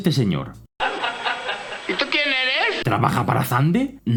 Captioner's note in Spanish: Risas